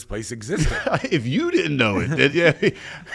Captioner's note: laughs